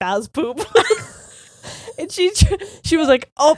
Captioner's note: both laughing